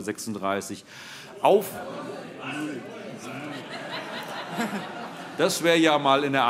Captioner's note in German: Allgemeine Heiterkeit - Zurufe: Das kann nicht sein!